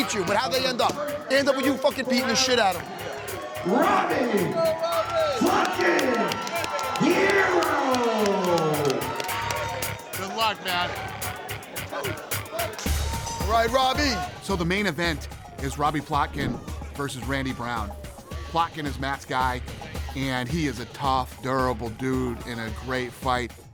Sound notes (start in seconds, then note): 6.7 applause